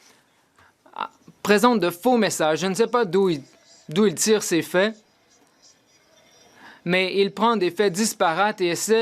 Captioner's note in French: voix de l'interprète